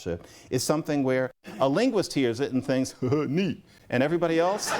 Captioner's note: chuckles; laughter